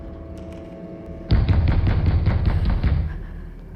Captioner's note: pounding on door